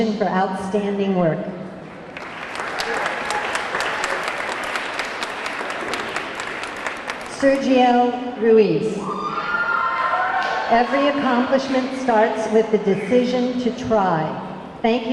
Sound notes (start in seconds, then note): 1.8 audience clapping; 2.2 audience cheering; 9.1 audience clamoring